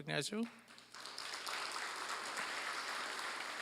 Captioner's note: applause